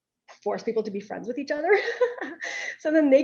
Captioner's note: laughs